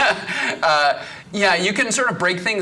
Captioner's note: laughing